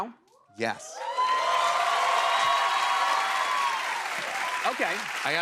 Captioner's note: cheers and applause